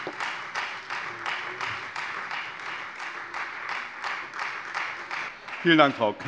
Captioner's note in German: Beifall Freie Demokraten